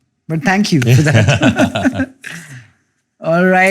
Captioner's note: laughter